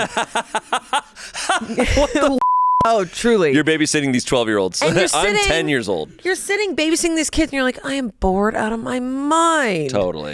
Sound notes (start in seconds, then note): 0.0 laughs; 2.4 beep